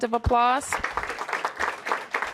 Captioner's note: applause